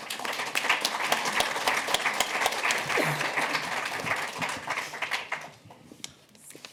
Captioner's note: applause